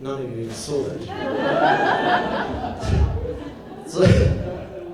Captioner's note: audience laughs